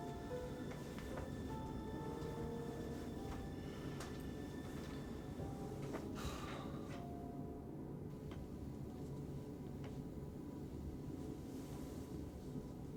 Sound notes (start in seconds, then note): 0.0 somber music continues; 6.4 Zac sighs